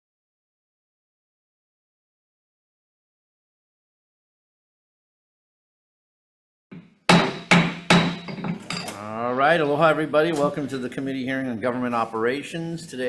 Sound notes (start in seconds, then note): 7.0 gavel clacks